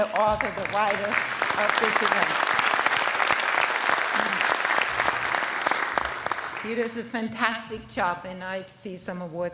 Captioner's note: applause